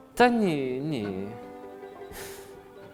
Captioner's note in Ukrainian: схлипує